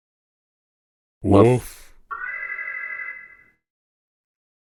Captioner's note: alarm